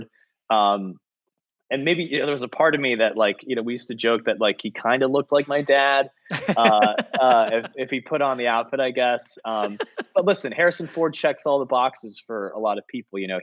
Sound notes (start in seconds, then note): 6.3 laughing